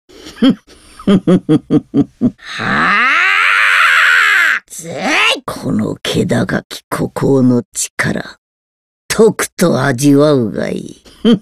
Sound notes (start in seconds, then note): 0.9 laugh; 2.5 scream